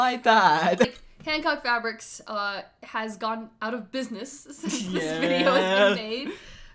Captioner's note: laughs